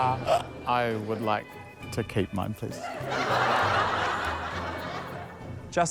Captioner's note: laughter